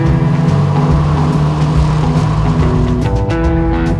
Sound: cars revving

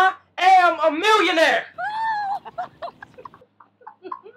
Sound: both cheering

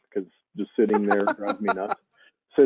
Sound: laughing

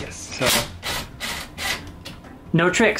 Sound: drill buzzes

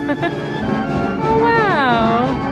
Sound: laughing

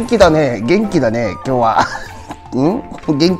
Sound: laughs

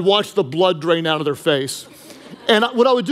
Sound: congregation laughing

